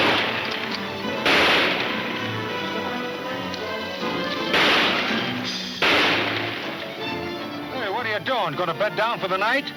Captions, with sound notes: (gunshots banging) - Hey, what are you doing? Gonna bed down for the night?